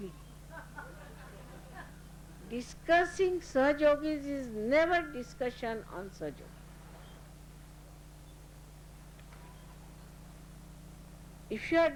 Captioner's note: laughter